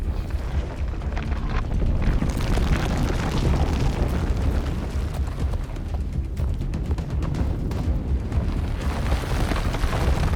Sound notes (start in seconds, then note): 1.8 ground cracking